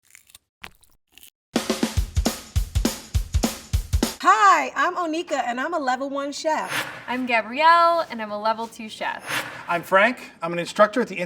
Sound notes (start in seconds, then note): 0.0 soft food crumbling; 1.7 upbeat music